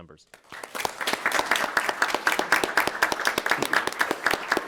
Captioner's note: attendees applauding